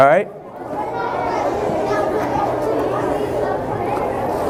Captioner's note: kids chattering